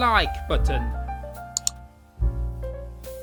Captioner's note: click sound